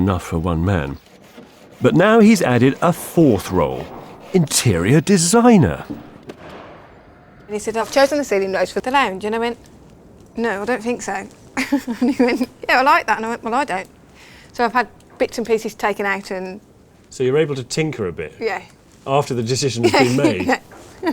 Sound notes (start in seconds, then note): 11.5 chuckles; 19.8 chuckles